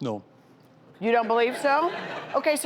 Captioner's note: audience laughs